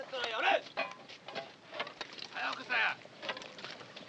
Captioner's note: shouting in Japanese